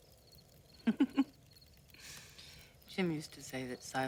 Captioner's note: giggles